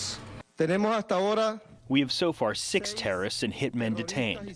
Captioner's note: through translator